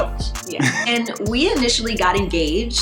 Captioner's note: laughs